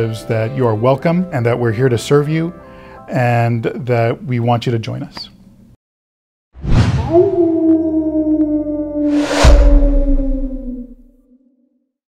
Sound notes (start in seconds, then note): 7.0 howling